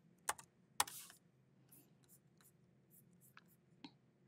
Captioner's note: keyboard clacking